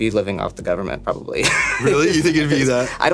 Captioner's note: laughing